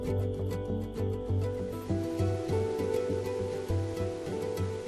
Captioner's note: water rushing